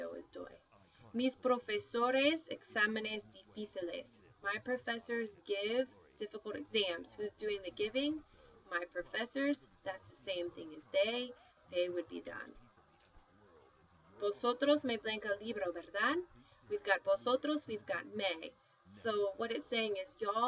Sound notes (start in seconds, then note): 0.8 spanish; 14.0 spanish; 18.8 spanish